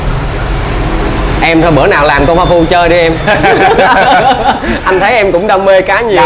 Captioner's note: laugh